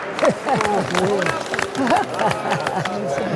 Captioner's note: laughing